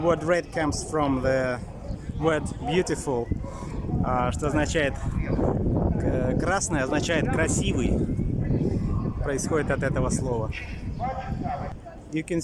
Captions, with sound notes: The word red comes from the word beautiful. that it is красивый (In Russian). Red means beautiful. It comes from this word.